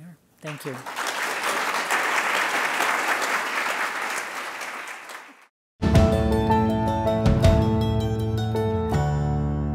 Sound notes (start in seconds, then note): 0.4 applause